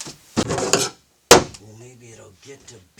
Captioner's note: slamming